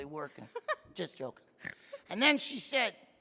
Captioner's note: laughing